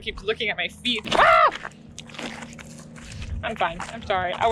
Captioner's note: scared scream